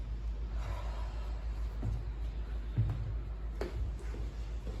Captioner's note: exhale; inhale